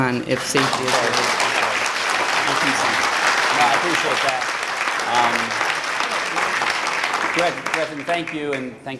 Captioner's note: applause